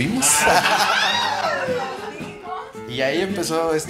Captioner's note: people laughing